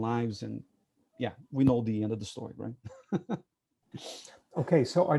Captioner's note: chuckles